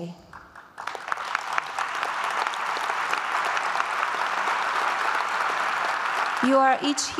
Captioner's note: applause